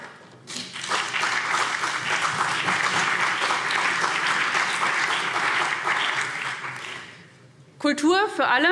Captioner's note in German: Beifall CDU und BÜNDNIS 90/DIE GRÜNEN